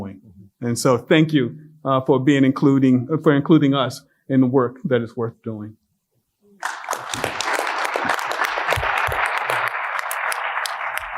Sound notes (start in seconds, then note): 6.6 applause